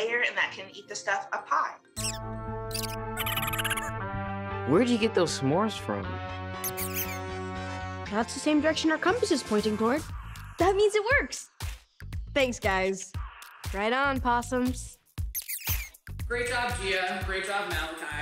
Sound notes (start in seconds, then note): 2.7 possums squeaking; 6.6 possums squeaking